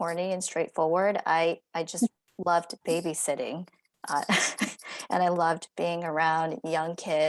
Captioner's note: laughter